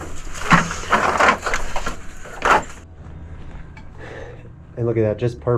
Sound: rope thudding on wood

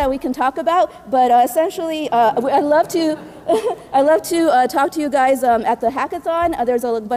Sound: laugh

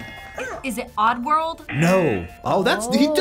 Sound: buzzer; buzzer barks

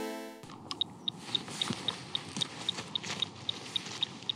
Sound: timer clicking

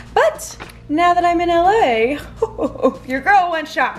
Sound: chuckles

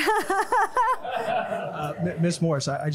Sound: all laughing

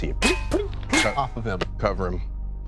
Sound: clattering

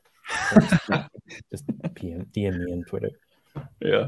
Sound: all laugh

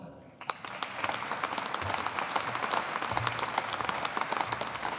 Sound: audience applauding

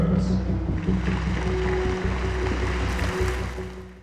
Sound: applause

